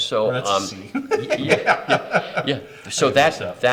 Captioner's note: both laugh